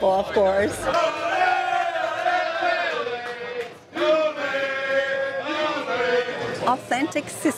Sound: crowd cheering

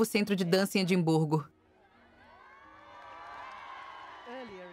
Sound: crowd cheering

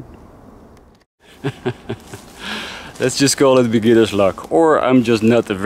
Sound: laughs

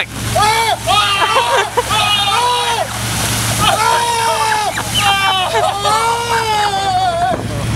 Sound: girlish yelling

